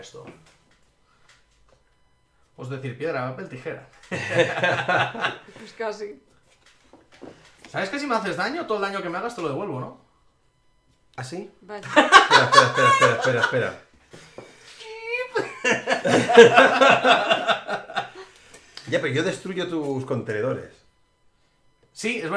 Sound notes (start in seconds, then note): 4.1 laughs; 11.8 laughs; 14.9 laughs